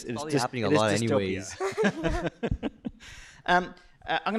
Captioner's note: laughter